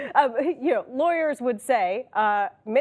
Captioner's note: laughter